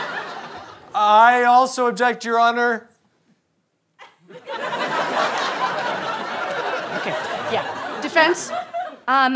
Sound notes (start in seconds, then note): 0.0 audience laughter; 4.2 audience laughter